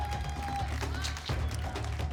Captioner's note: applause